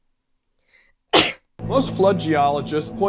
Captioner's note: coughs